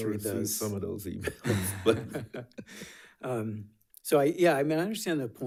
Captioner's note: chuckles